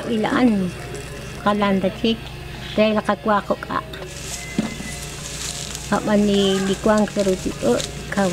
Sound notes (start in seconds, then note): 4.0 corn stalks rustling